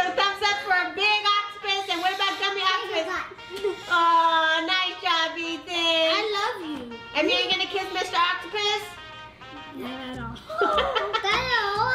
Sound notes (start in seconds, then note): 3.8 kiss smack; 10.2 laughs